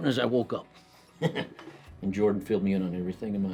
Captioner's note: laughs